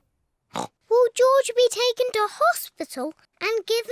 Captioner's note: oinks